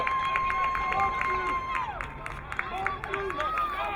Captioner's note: crowd cheering